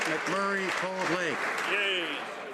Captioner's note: some Applause